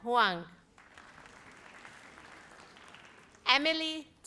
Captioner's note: audience applauds